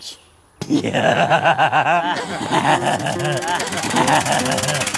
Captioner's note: roaring laughter